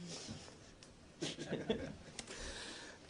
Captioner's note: laughter